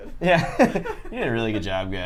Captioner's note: laughs